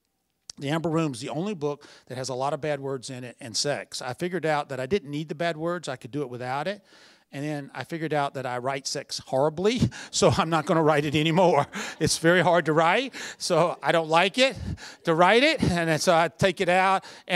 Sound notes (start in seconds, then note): 11.4 chuckle; 13.3 laughter